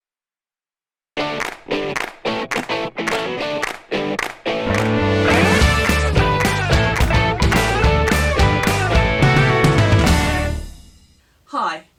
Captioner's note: claps